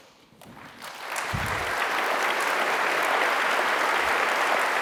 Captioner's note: applause